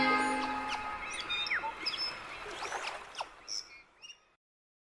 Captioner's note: birds chirping